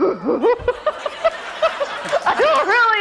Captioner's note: laughs